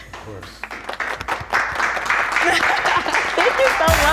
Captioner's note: applause